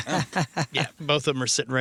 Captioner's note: laughing